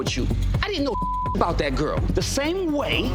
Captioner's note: beep